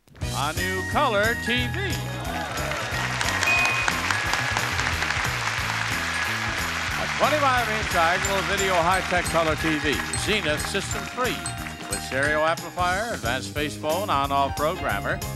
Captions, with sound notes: A new color TV. (audience applauding) (audience cheering) (upbeat music) A 45 inch triangular video hi-tech color TV from Siemen Systems, with stereo amplifier, advanced face phone and a programmer